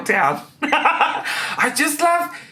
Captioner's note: laughing